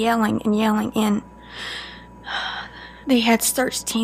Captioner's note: Charlene takes a deep breath